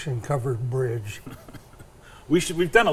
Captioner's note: chuckles